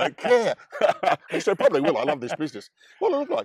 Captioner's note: they laugh